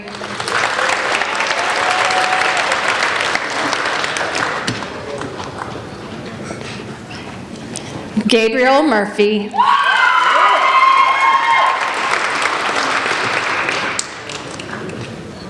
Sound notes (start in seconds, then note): 0.0 applauding; 9.7 applauding